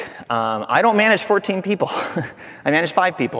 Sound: chuckling

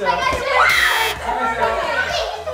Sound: buzz; voices in the background

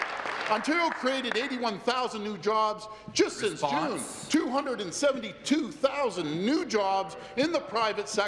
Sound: applause

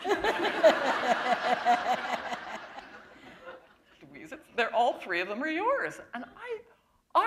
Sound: chuckle

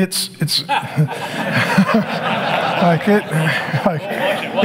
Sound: congregation laughing

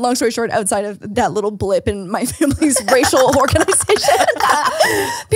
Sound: laughs

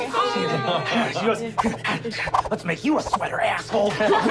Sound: whipping

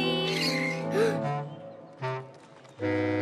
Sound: gasps

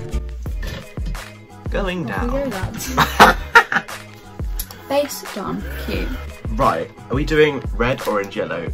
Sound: laughs

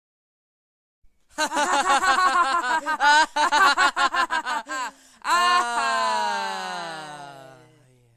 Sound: laughing

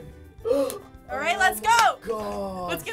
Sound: gasping

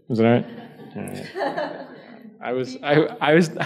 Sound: laughs

